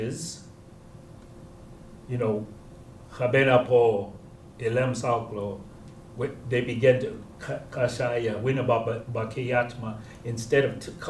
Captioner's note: non-english speech